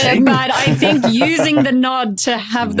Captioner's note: guys laughing